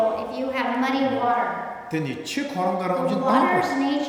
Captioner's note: speaking tibetan